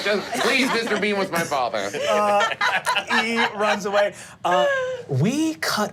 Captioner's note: group laughing